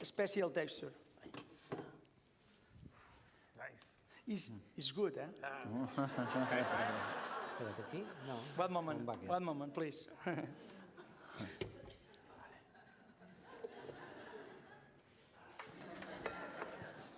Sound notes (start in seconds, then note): 10.2 chuckles; 13.4 laughter